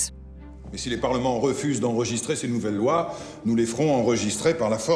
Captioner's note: men speaking in French